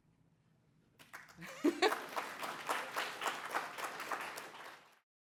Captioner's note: applause